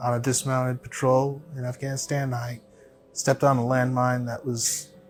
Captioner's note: none